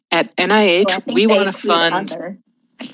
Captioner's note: laughs